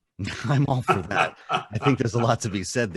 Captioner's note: laughs